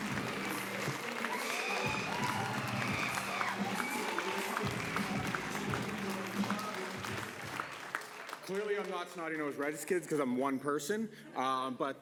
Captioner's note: applause